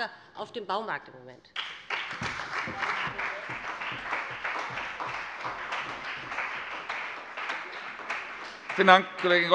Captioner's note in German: Beifall bei dem BÜNDNIS 90/DIE GRÜNEN und der CDU